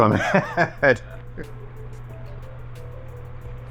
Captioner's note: both laugh